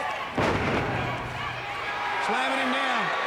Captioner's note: body thudding